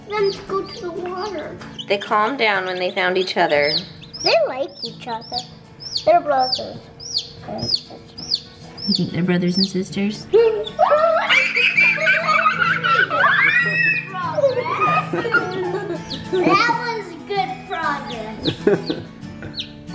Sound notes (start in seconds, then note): 10.2 laughing; 10.5 screams